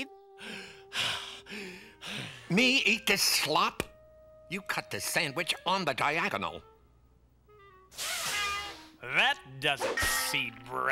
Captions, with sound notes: (BREATHING HEAVILY) Me, eat this slop? You cut the sandwich on the diagonal. (STEAM HISSES) That does it, seed breath.